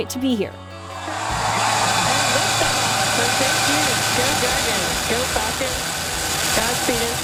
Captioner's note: engine revving